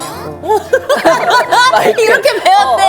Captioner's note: pat pat